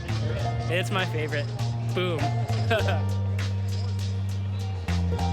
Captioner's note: laughing; bouncy country music